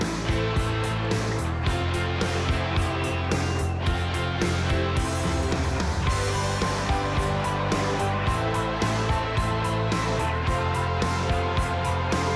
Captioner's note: crowd cheering